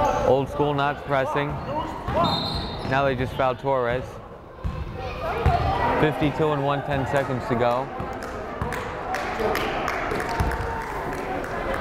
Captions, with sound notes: Old School not pressing. (whistle blows) Now they just foul Torres. 52 and one tenths seconds to go. (crowd chattering)